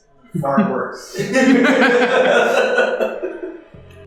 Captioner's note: laughter